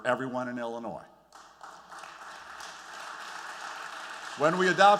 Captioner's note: applause